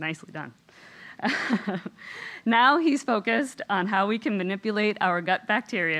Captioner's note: laugh